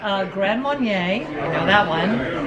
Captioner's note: reads in foreign language